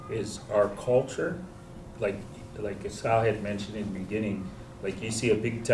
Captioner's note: non-english